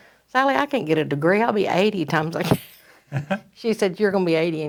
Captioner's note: laughs